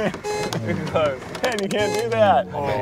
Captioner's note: laughing